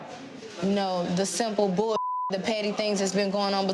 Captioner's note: beeps